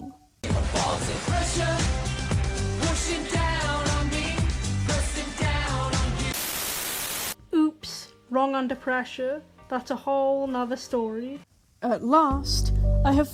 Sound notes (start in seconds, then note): 6.2 static